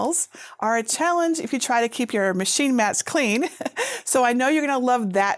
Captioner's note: chuckles